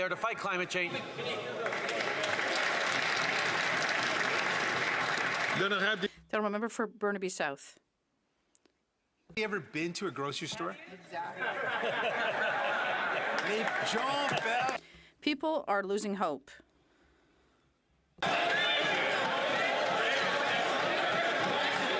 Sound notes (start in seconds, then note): 5.6 some Applause